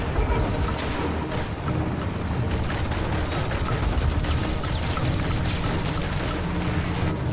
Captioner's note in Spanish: Disparos